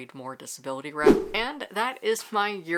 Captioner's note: whoosh